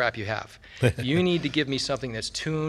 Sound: laughs

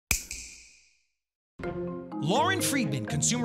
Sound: snap

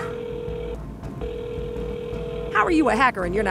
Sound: line ringing

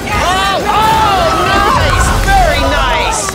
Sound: everyone shouts

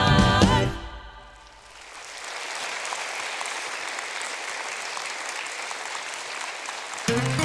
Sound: applause

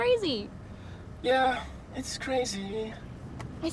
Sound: in robotic voice

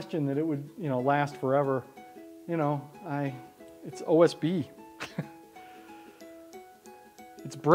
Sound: laughs

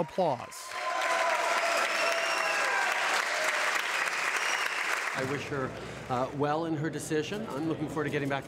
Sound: applause

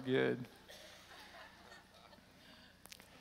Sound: laughter

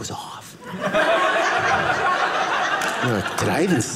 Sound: audience laughing

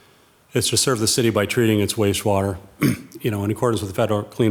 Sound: clears throat

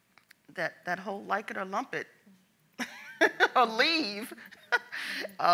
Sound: laughs

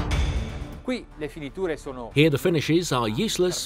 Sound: speaking in foreign language

